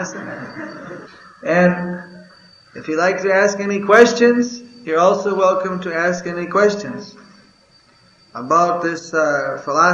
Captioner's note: laughter